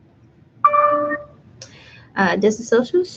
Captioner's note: computer dings